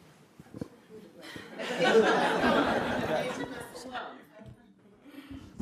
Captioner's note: audience laughing